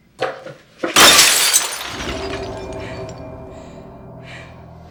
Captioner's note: glass smashing; dramatic music